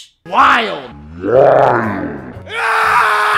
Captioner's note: horror Movie Scream Sound Effect; slowed Down, Low Pitched